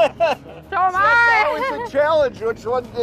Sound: laughs

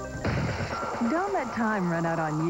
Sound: Static

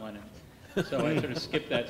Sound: laughing

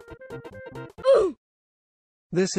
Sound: Funky Music abruptly stops again and Roblox OOF sound plays

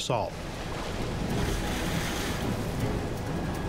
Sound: water swishing; dramatic ominous instrumental music

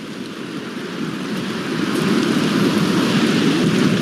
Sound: wind gushing

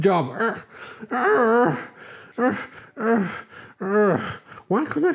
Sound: Growler Groans

